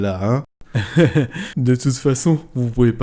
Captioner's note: laugh